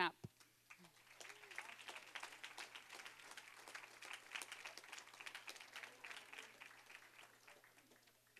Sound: applause

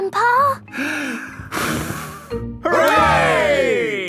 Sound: breathes deeply, blows

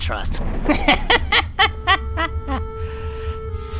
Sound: laughs Hysterically

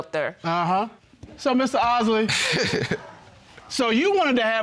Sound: laughs

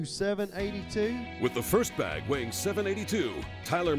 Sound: voiceover

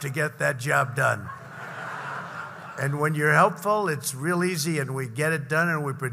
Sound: laughter

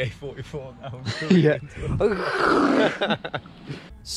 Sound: screeching; laughing

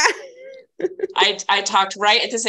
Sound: laughing

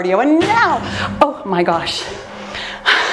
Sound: timer beeps; foot thudding; laughs

